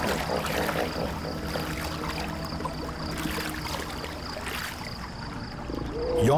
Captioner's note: water splashing